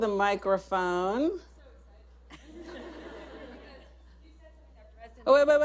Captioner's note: laughter